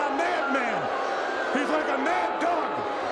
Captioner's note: crowd boos